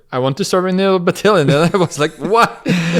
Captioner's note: laughs